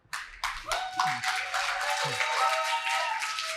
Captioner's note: applause